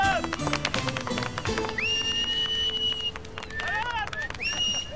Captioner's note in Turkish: Islık ve alkış sesleri